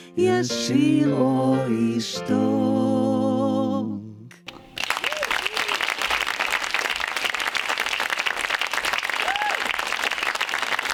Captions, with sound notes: ישיר או ישתוק (audience applauding)